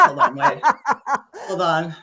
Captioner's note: laughing